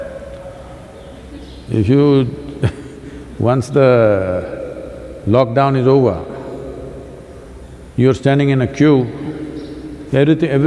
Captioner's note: laughs